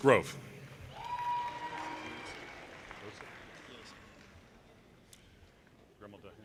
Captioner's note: audience cheers and applause